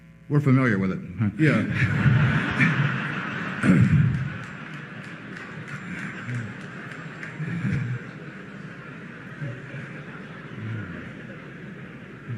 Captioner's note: laughter and applause